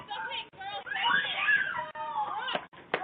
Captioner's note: kids screaming